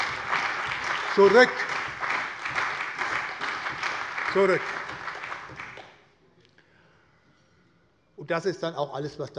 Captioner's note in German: Lebhafter Beifall bei der SPD, der CDU, dem BÜNDNIS 90/DIE GRÜNEN und der FDP